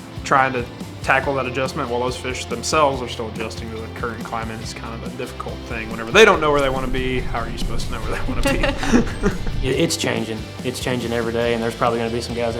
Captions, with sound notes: Trying to tackle that adjustment while those fish themselves are still adjusting to the current climate is kind of a difficult thing. Whenever they don't know where they want to be, how are you supposed to know where they want to be? (laughing) - It's changing, it's changing everyday and there's probably gonna be some guys that